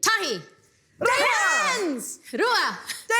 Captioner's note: all yell